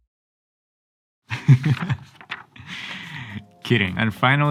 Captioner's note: laughing